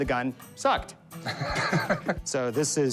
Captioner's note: laughs